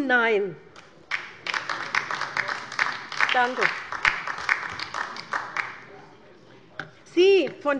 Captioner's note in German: Beifall bei der LINKEN